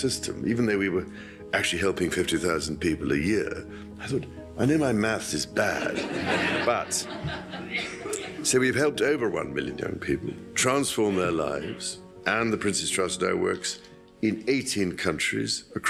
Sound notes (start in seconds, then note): 5.6 audience laughing